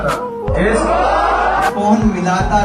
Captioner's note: crowd erupts into cheers